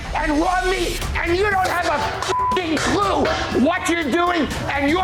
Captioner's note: beep